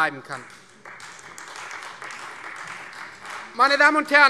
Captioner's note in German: Beifall Freie Demokraten